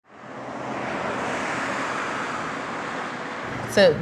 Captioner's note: cars passing